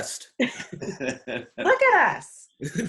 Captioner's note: participants laugh